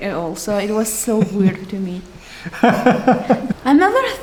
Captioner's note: laughs